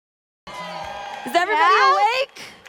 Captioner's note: audience applauding